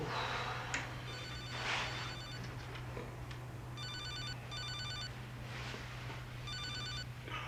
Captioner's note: phone Rings